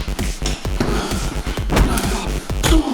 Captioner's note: dramatic music; fist punching; Z breathing heavily; Z groaning; fist punching; Z groaning; leg kicking; Z thudding; fist punching